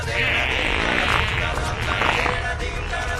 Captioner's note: Arsi farts in the oxygen pipe